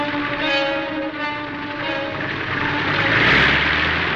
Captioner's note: plane engine roars